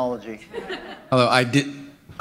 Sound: laughter

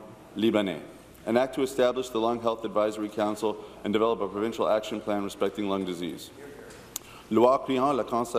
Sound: speaking in French

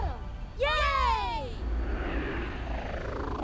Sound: vehicle whirs

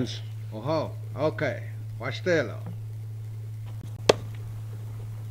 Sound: native American speaking foreign language

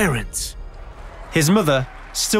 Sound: applause

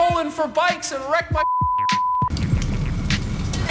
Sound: beep

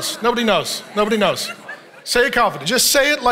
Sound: congregation laughing

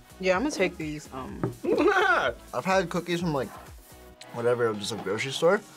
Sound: laughs

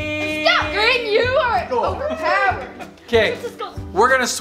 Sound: family cheers

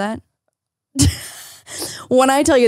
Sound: laughs

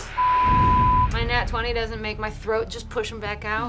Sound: beep

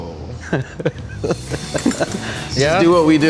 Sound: laughs

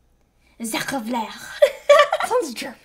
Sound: imitates French accent

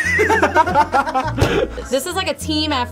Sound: guys laughing

